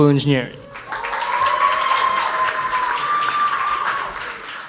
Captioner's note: audience applauds